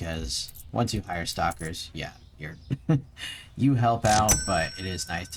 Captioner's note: chuckles